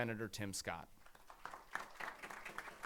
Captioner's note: applause